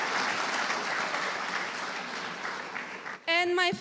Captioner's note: cheers and applause